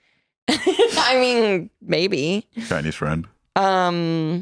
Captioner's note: laughs